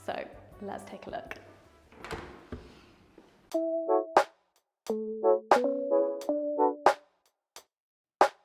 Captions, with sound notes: so let's take a look. (door clicks) (gentle bouncy music)